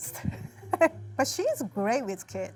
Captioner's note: laughing